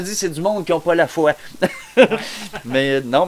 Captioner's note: laugh